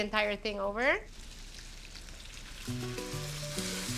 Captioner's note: sizzling